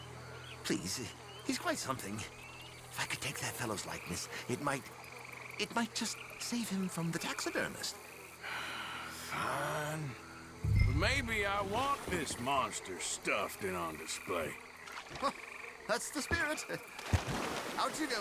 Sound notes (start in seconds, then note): 9.5 sighs; 15.8 laughs